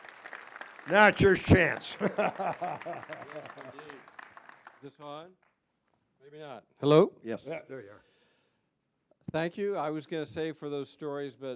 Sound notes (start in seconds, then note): 1.8 laughter